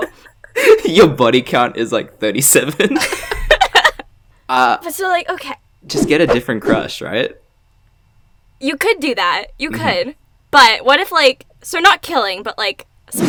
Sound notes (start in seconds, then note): 2.7 both laugh